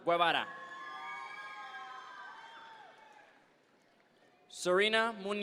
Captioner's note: audience members cheer